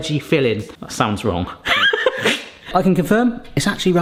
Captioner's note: laughing